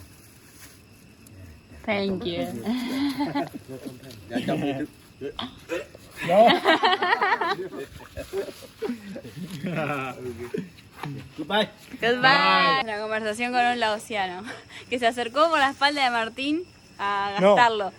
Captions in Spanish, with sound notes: [Risas] la conversación con un laosiano, que se acercó por la espalda de Martín a asustarlo